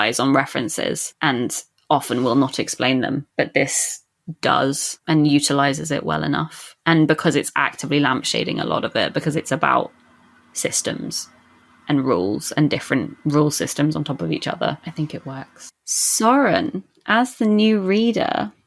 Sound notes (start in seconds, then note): none